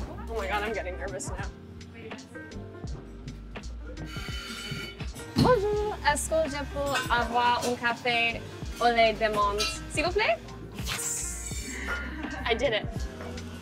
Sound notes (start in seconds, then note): 1.6 light music; 5.3 Madelaine speaks in French; 13.3 light music